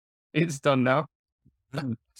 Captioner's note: chuckles